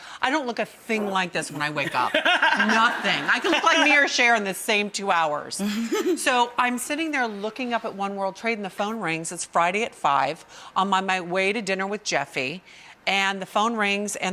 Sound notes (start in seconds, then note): 1.5 Rachael and audience laugh